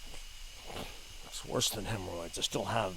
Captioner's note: scoffs